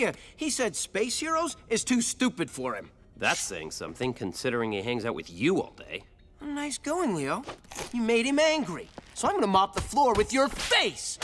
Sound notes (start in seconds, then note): none